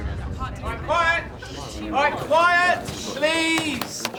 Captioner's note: students murmuring